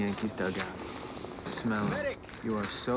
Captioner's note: sniffs